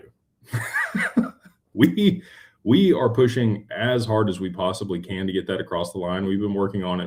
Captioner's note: laughter